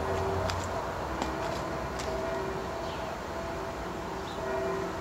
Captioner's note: bells tolling